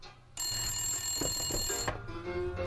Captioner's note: phone rings